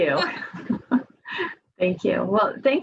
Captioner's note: directors laugh